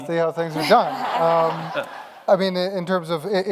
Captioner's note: audience laughs